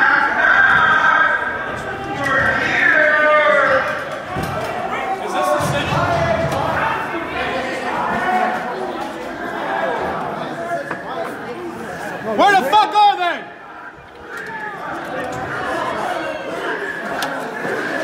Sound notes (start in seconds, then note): 6.2 crowd murmuring; 14.0 crowd yelling and murmuring